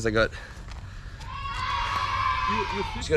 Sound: preeschool noises

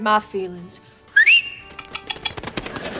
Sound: whistling

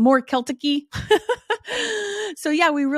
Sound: laughs

